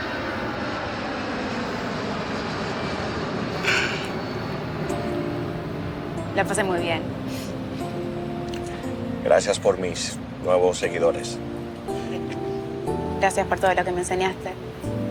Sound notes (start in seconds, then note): 0.1 airplane Flying; 3.6 laughing; 4.7 airplane Flying; 7.2 laughing; 11.8 laughing; 14.3 soft Music Playing